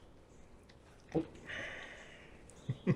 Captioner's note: Patrick gulps; Patrick laughs